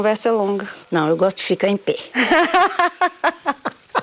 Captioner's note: laughs